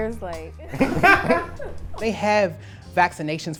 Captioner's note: group laughing